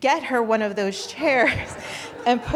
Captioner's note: audience chuckling